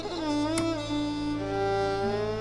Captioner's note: TV clicks on